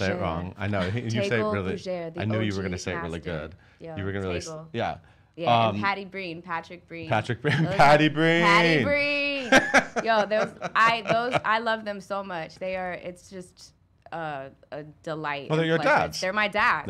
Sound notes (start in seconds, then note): 8.7 laughing